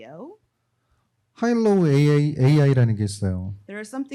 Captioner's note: speaking korean